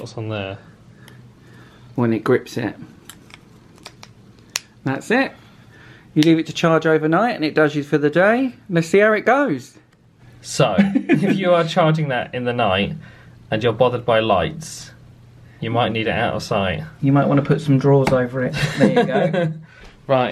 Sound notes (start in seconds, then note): 4.1 charger snaps on; 18.5 laughs